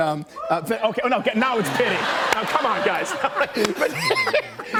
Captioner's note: laughter